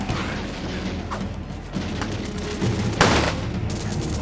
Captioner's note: men panting; guns firing